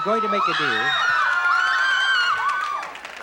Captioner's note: screaming